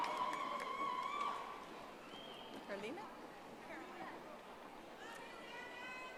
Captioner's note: audience applauding